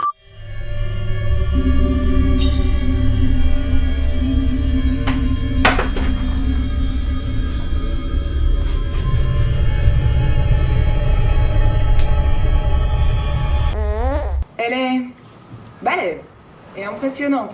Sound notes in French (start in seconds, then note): 0.1 musique flippante; 13.7 bruit de pet